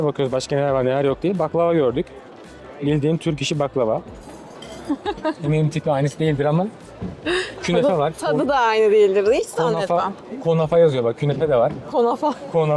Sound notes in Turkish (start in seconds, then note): 4.8 kahkaha